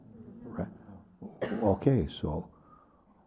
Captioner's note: voices in group